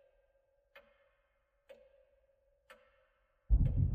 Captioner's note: clock ticking